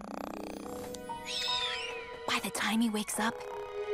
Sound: snoring

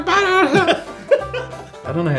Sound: laughter

